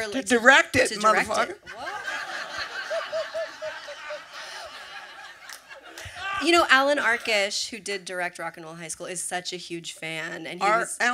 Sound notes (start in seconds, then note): 4.4 laughter